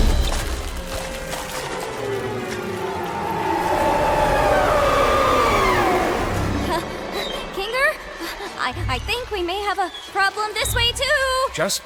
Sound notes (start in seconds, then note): 1.8 shrieking; 6.0 laughs nervously